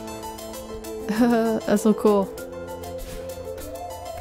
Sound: laughs

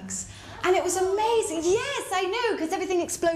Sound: audience: aah!

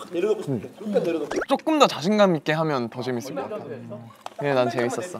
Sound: warm feedback

